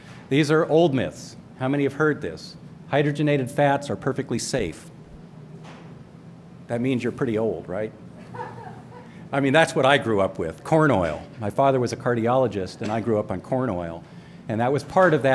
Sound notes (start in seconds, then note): 8.2 laughter